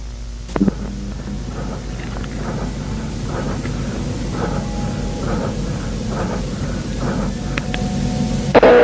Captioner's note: strange Squelching; soft Breathing